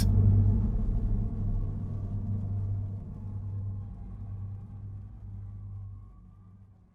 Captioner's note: music fades; screams fading